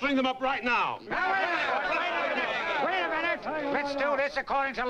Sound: crowd clamoring

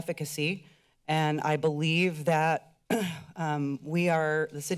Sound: clears throat

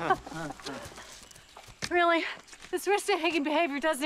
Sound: boys laugh insincerely; laughs

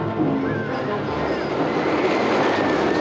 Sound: roller Coaster Rumbling

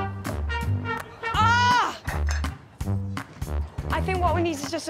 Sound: upbeat music; balls clattering on plate; Morgana screaming

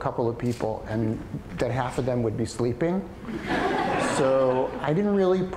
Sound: audience laughter

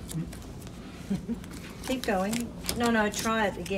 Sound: chuckle

